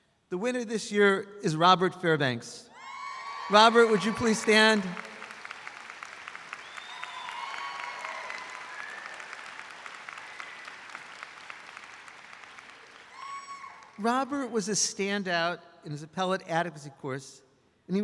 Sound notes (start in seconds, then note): 2.8 audience applauds